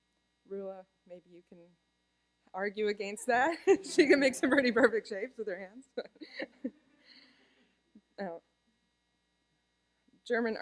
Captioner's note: laughter